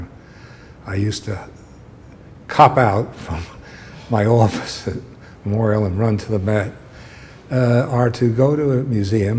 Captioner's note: chuckle